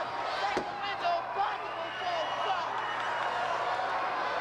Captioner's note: crowd cheers